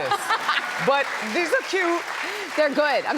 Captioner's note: laughs